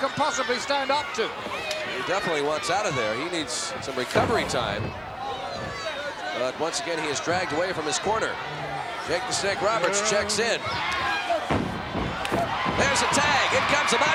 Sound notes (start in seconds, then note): 0.0 Undertaker yelling; 5.5 body slams; 10.8 humming; 11.4 feet scampering